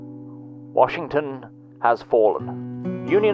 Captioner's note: Nicholas Faircrest on radio